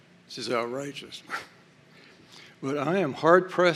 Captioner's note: scoffs